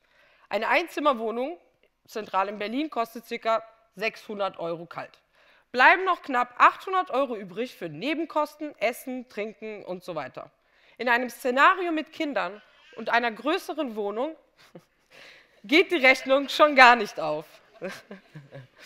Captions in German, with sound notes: Eine 1 Zimmer Wohnung, zentral in Berlin kostet ca. 600 Euro kalt. Bleiben noch knapp 800 Euro übrig, für Nebenkosten, Essen, Trinken, usw. In einem Szenario mit Kindern (Kind schreit zufällig im Publikum) und einer größeren Wohnung, geht die Rechnung schon gar nicht auf.